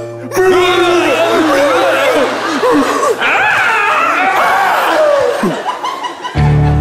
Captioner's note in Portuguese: grunhidos